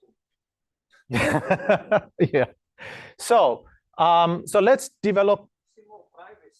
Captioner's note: laughs